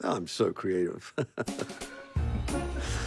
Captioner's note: chuckling